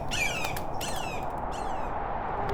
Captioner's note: hawk cries